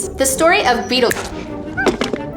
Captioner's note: snaps finger; hitting floor sound